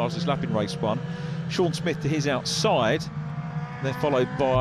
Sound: engines roaring

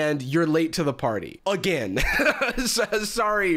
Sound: laughs loudly

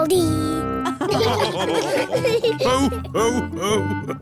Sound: all laughing

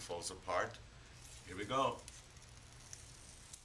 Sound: tape peeling off

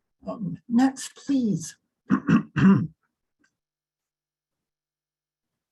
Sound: clears throat

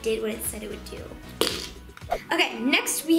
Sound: farting

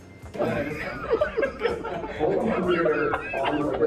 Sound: laughing

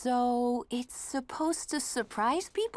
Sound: none

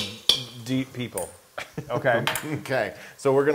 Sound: laugh

